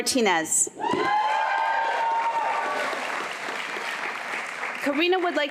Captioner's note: applause